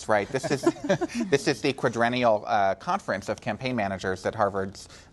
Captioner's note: laughter